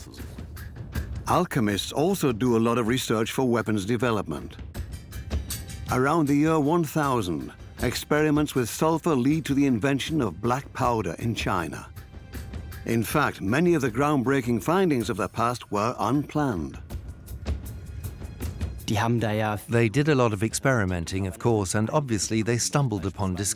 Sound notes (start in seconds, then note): 18.2 in German; 20.0 dubbed in English